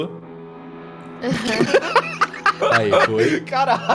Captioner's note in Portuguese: risada